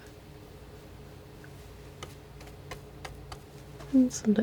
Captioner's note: scratching